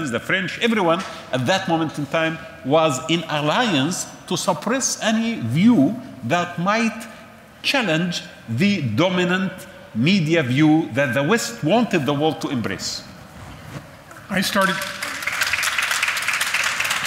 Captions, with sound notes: the French-everyone at that moment in time was in alliance to suppress any view that might challenge the dominant media view that the West wanted the world to embrace. I started- [Audience applauds]